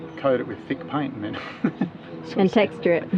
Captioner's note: laughs